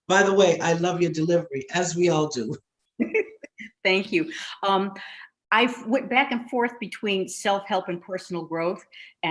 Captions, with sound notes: By the way, I love your delivery," as we all do. - (chuckles) Thank you. I went back and forth between self-help and personal growth,